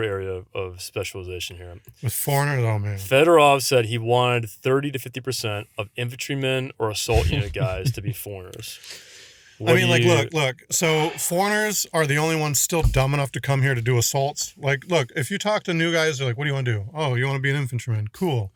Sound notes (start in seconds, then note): 9.6 laughs